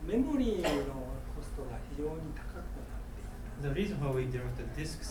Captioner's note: coughing